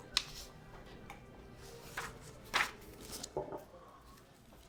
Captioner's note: papers rustling